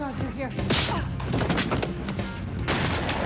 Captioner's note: slap; gun fires